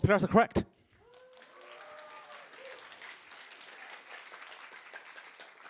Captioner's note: applause